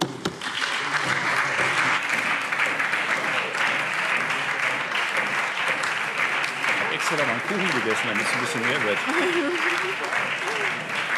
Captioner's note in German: Lang anhaltender lebhafter Beifall SPD